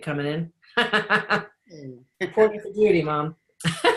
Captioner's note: laughing